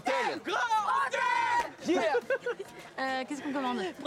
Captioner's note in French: en choeur